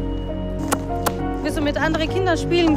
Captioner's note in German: Schnalzlaute